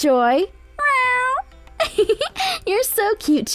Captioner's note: meowing; laughs